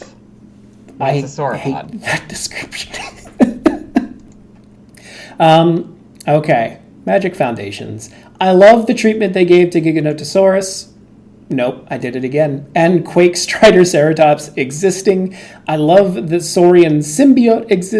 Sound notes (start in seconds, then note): 2.8 laughs